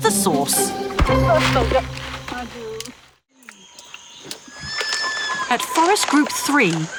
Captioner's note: in foreign language